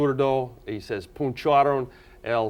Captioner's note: speaking in foreign language